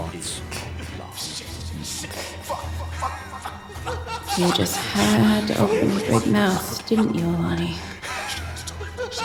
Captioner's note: copious cursing mixed with laughter